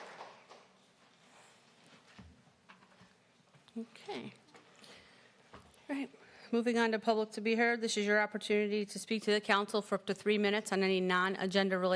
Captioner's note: applause